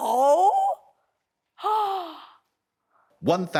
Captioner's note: gasps